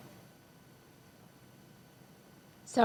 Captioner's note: audio cuts out